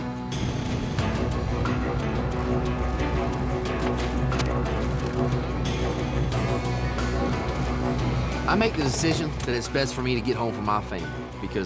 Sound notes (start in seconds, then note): 0.0 thundering, raining